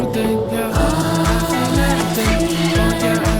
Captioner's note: keystrokes